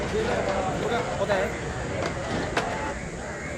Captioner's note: indistinct chatters